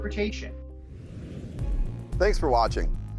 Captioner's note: screen whooshes